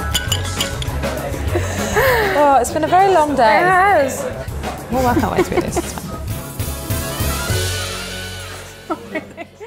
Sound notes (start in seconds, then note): 8.8 laughs